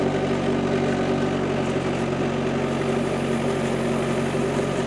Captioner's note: engine revving